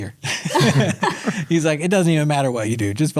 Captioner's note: all laugh